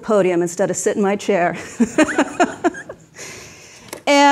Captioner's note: laughs